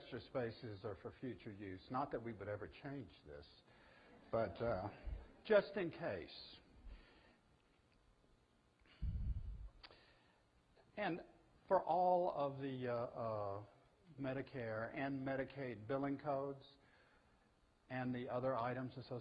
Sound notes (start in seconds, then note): 4.1 audience: Laughter